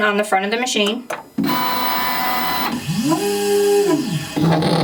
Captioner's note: machine whirring